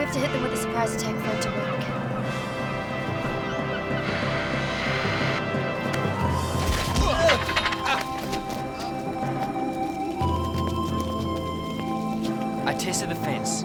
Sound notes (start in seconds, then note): 3.9 static crackling; 6.4 bats hitting guards; 7.0 guards grunting in pain